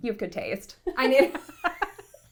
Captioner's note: laughs